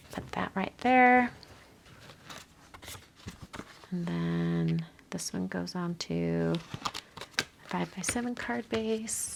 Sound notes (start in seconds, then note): 1.9 paper crinkling